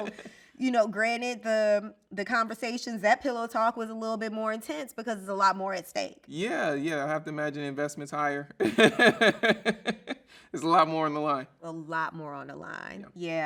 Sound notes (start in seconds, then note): 8.6 laughs